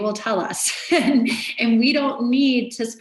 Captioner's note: laughs